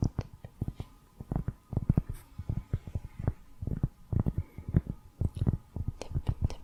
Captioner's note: tapping on cork